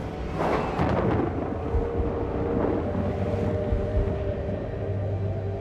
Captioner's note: thunder rumbling, wind howling